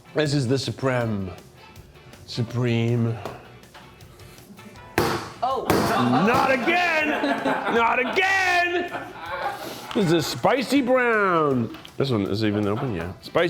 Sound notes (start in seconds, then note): 7.4 crew laughs